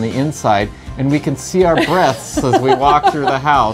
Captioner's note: laughs